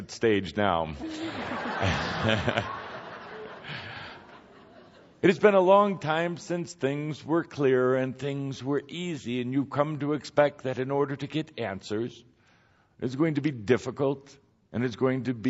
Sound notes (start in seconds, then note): 1.0 more laughter